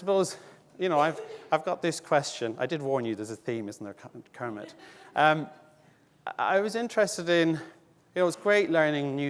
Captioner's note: audience laughing